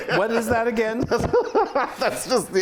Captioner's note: laughing